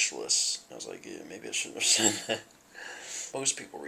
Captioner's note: laughter